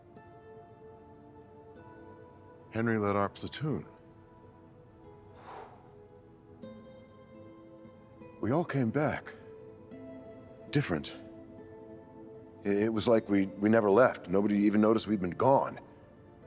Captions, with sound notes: (gentle music) - Henry led our platoon. (sighs) We all came back, different. It, it was like we, we never left. Nobody even noticed we'd been gone on.